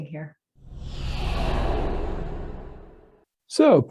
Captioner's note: air whooshing